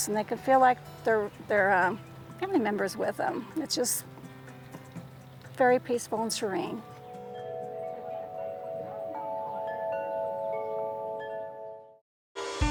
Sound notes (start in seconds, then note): 6.9 bells chime